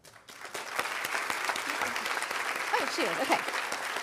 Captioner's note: audience applauding